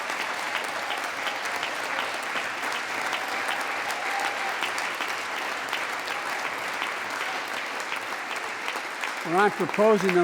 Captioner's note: applause